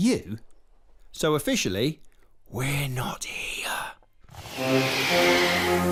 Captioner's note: whispers